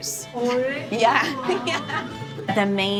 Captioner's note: laughs